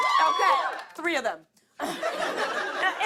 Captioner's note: cheers and applause; laughter